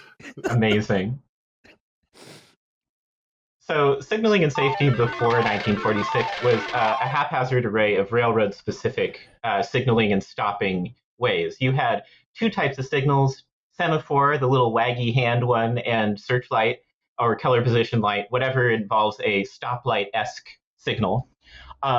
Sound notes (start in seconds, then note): 6.5 winning lottery machine noises